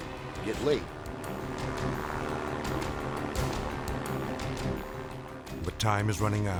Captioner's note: tense music; plane roaring